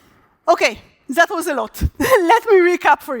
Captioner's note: chuckles